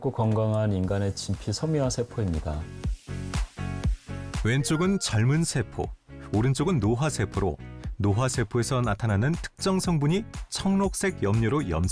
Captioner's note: voiceover